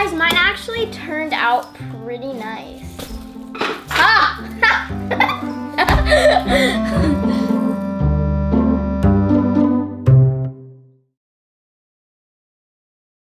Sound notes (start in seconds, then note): 4.0 laughing